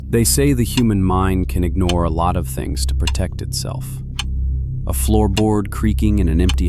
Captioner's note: thoughtful